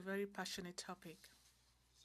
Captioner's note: speaking French